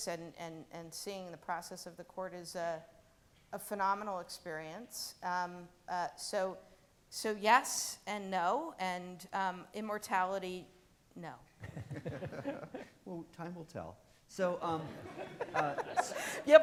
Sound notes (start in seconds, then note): 11.6 all laughing; 14.9 audience laughing